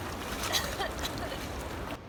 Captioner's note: coughing